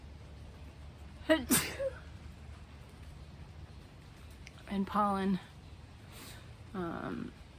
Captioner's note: sneezes